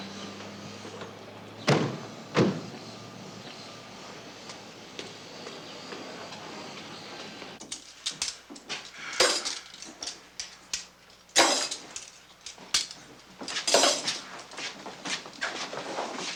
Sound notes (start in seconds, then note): 10.1 clinking